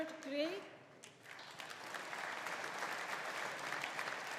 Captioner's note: audience applauding